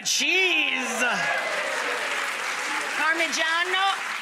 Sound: audience applauding

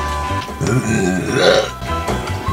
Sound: manly burp

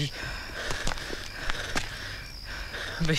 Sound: panting

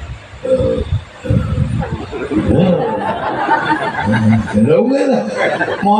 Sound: laughs

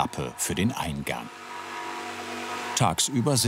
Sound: roaring

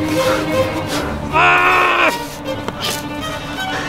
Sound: ripping shirt sounds

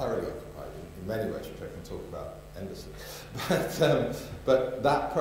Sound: chuckles

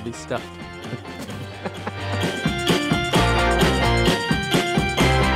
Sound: laughter

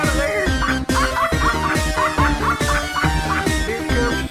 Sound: evil Laughter

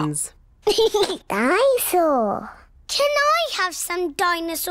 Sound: giggles

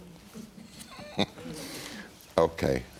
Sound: laughs

